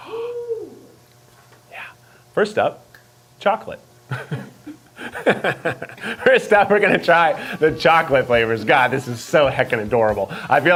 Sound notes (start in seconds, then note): 4.1 laughs